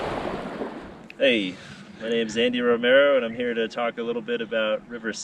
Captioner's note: water rushing